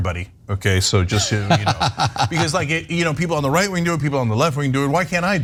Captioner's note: laugh